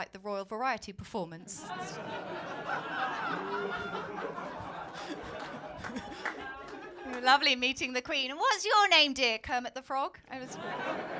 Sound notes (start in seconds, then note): 1.6 laughter